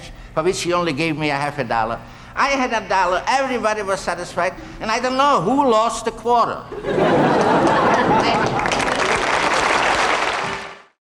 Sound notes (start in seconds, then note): 6.7 audience laughing; 7.4 applause